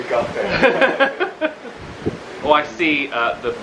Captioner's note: they laugh